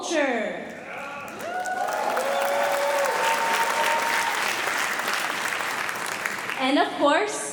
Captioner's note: cheering; applause